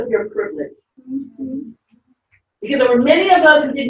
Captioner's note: audience murmuring in agreement